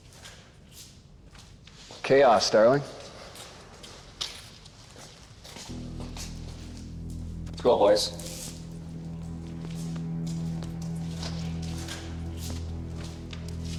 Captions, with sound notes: - Chaos, darling. (footsteps thumping) (suspenseful music) Let's go, boys. (suspenseful music continues) (footsteps thumping)